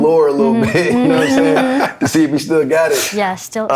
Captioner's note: laughter